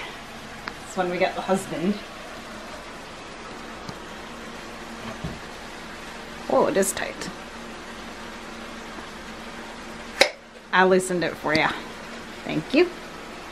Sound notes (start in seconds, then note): none